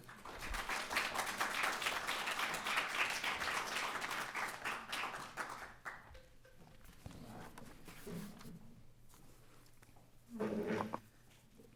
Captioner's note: foreign language